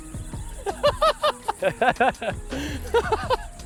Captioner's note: both laugh